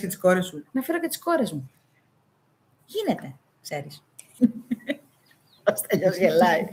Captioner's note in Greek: γέλια